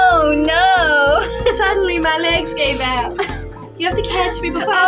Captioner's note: sensual Music; laugh; sensual Music